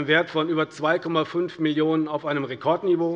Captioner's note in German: none